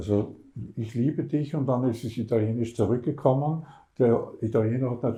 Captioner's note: said in German